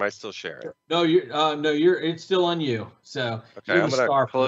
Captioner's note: faintly speaking